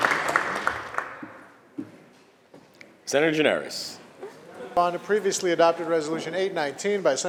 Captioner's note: applause